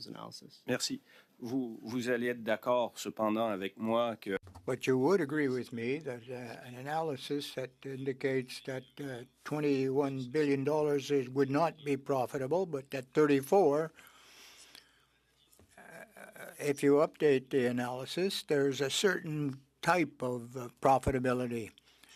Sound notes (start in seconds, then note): 4.3 speaking French